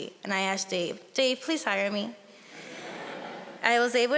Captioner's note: audience laughing